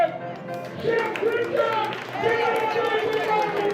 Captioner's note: applause